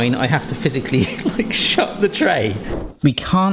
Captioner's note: laughing